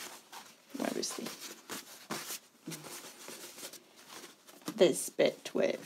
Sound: fabric rustling

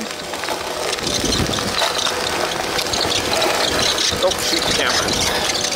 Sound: machine engine roaring

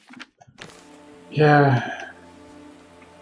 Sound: sighs

